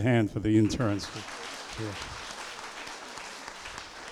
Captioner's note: applause